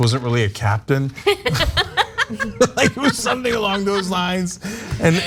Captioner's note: laugh